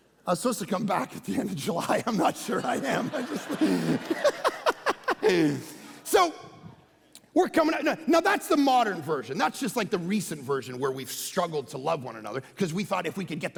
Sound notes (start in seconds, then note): 4.9 laughing